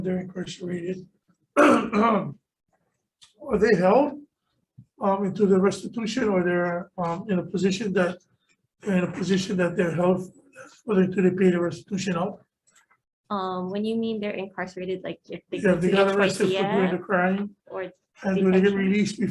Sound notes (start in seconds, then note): 1.6 clears throat